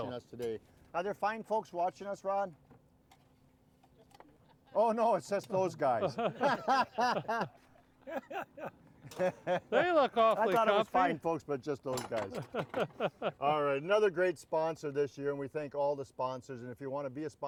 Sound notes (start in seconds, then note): 5.6 all laughing; 12.4 laughing